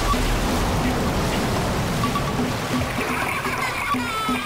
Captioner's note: boy crying